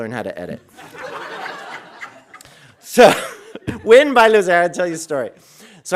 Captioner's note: audience laughing